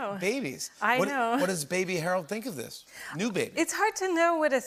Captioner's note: laughter